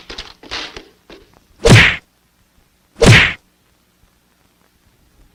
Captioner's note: smack!